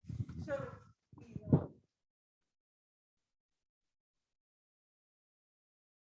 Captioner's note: speaking faintly